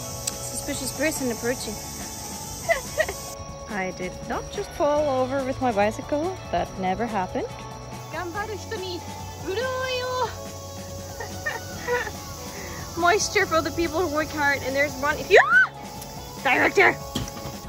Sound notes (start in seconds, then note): 2.4 laugh; 11.1 laughter; 15.1 scream